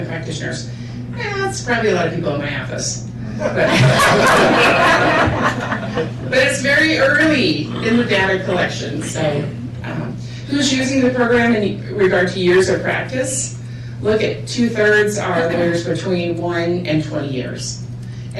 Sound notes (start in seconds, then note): 3.4 laughter